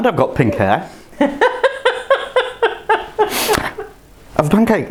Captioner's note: laughs